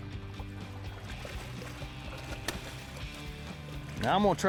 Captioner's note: water splashes